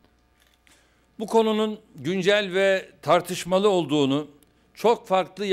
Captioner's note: non-english speech